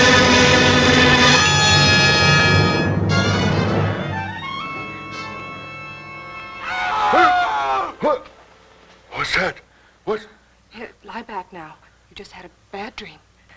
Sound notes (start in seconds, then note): 0.0 foreboding music; 6.6 watchman screaming